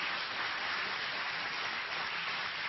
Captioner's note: applause